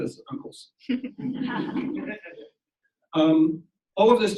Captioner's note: audience laughs